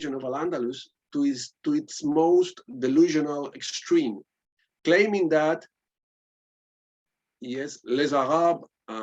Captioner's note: spanish